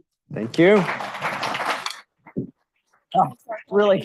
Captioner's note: audience applauds